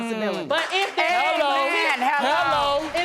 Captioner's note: audience applauding